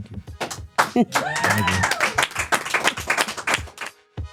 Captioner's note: hosts clapping; crew members cheering; upbeat R&B music